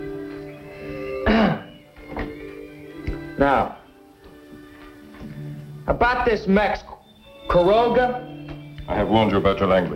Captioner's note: clearing throat